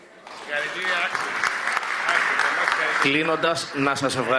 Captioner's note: applause